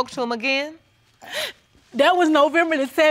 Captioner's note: sobs